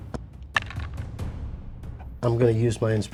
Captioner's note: dice rattling